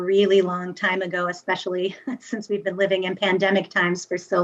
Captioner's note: chuckles